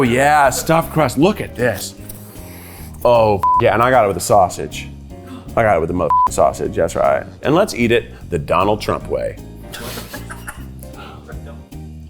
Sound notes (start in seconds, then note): 1.9 sniffs; 9.5 crew laughs